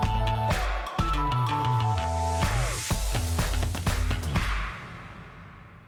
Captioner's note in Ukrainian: оплески